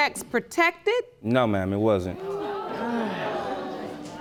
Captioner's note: sighs